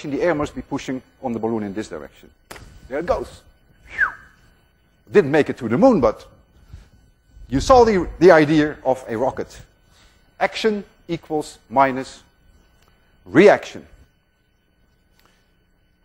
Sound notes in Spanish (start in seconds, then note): 3.7 silbidos